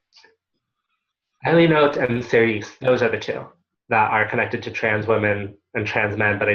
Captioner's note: Hebrew